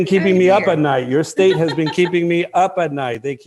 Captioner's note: laughter